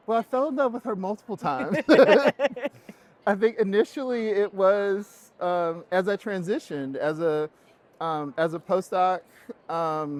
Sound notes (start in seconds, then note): 1.6 both laughing